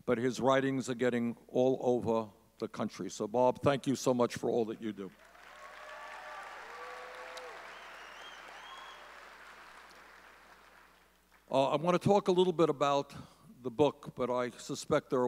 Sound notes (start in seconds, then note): 5.2 audience cheering